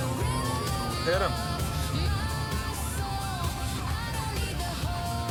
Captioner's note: sirens wailing